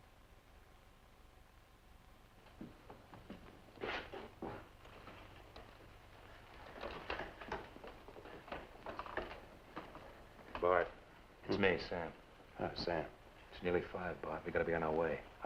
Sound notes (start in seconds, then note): none